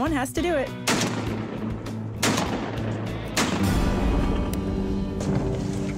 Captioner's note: gunshots